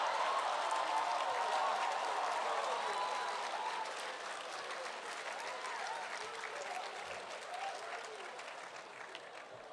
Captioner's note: cheers and applause